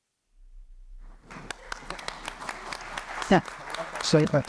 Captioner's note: applause